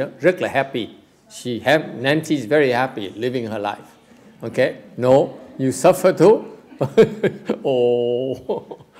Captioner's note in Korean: 웃음